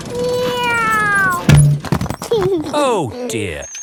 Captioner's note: george imitates airplane; george giggles